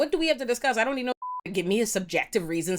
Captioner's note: beep